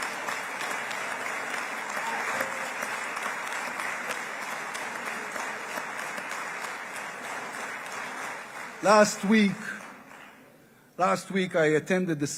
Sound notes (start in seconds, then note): 8.9 applause